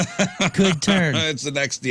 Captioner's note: laughing